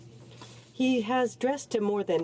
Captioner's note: speaking French